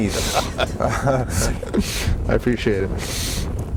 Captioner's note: both laughing